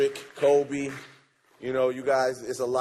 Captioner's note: applause